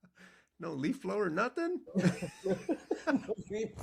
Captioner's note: laughing